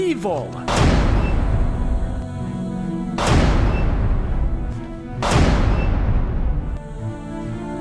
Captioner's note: loud banging